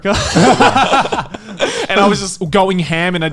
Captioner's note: laughing